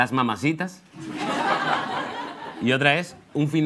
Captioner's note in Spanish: Risas